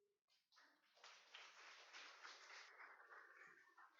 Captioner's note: applauding